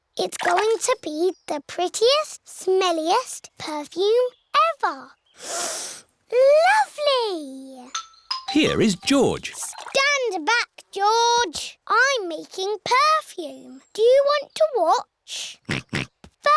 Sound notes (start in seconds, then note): 5.4 sniffs; 15.9 snorts